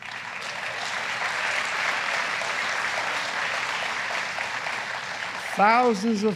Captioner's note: applause